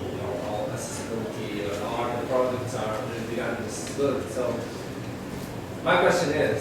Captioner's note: voice is muffled